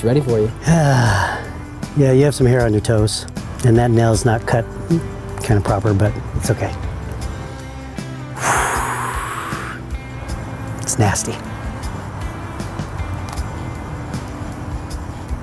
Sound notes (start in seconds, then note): 1.5 groaning; 8.3 long sighing